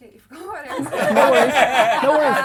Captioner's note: laughing